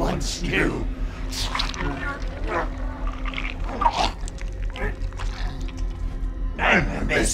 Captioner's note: body crunching; Gordon gagging